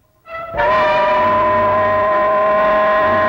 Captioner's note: whistling